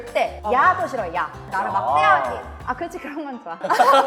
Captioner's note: in a cute flirting way; laughs